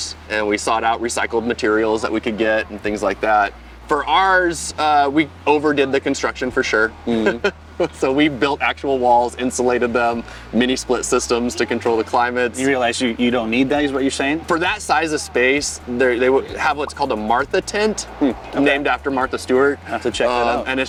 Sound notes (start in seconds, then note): 7.0 chuckles